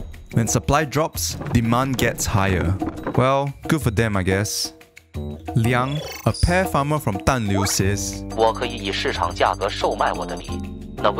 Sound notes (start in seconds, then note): 8.3 in Mandarin